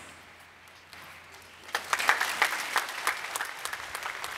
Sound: applause

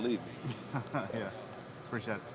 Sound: interviewer #1 laughs

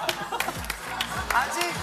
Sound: clap; clap, clap, clap

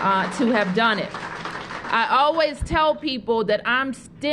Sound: applause

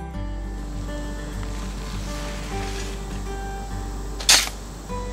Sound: sound of digging and shoveling dirt

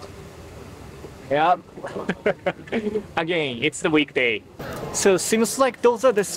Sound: chuckles

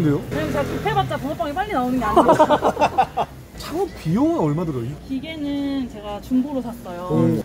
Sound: laughing

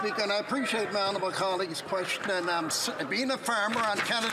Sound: some Applause

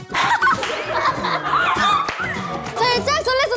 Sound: laughing out loud at being confident

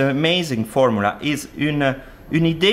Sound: speaking french

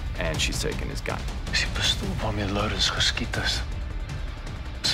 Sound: speaking foreign language

